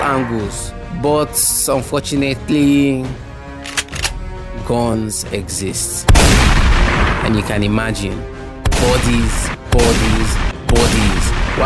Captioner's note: gunshot